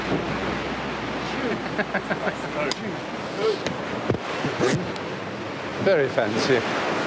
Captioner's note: people chattering and laughing